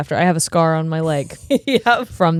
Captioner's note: giggling